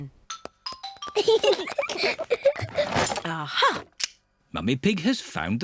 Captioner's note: peppa and george giggling